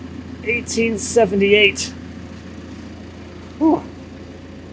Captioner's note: telehandler whirring